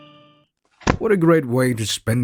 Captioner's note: book closes